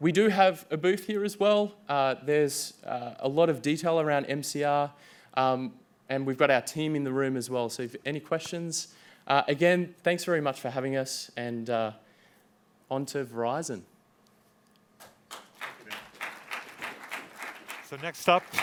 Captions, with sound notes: We do have a booth here as well. There's a lot of detail around MCR, and we've got our team in the room as well, so if any questions. Again, thanks very much for having us, and on to Verizon. [APPLAUSE]